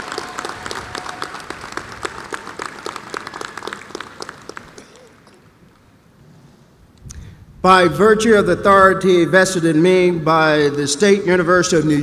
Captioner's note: applause